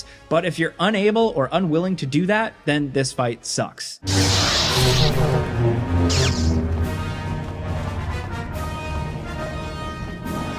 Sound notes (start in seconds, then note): 4.0 dramatic music; 4.0 lightsabers sparking